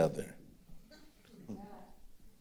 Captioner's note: others chuckling